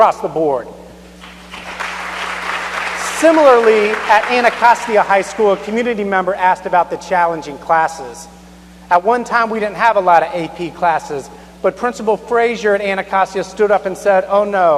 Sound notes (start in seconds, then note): 4.9 applause